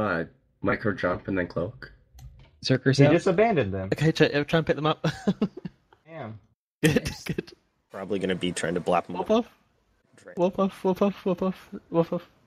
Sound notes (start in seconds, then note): 6.8 laughing